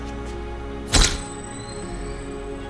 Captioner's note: camera flash goes off